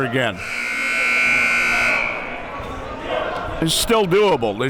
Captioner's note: siren blaring